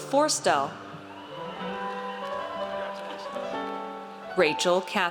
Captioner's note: audience cheers